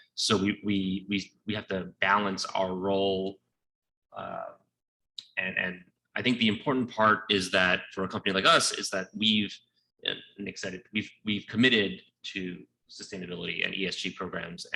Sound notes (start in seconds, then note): none